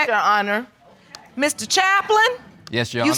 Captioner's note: audience murmurs